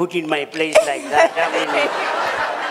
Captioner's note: laughter